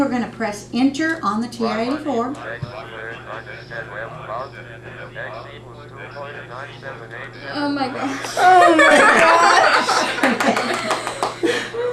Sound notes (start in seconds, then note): 2.6 multiple calculator voices; 8.1 laughter